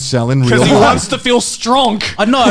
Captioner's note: laughing